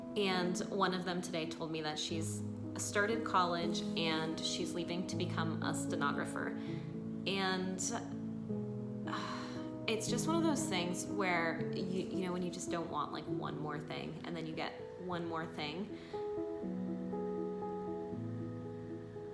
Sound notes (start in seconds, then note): 9.0 sighs; 16.3 soft piano music